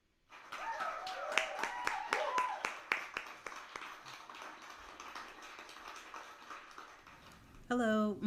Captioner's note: applause and cheers